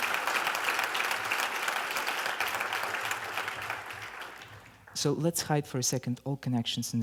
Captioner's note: clapping